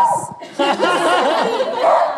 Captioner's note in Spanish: El perro ladra